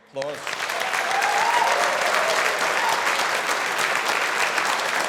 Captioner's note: audience applauding